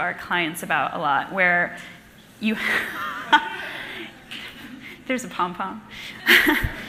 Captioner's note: laughs